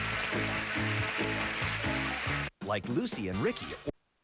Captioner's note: audience applauding